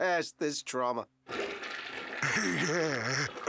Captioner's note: toilet flushes; laughing